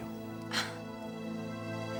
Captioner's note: gasps